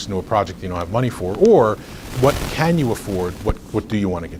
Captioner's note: recording crackles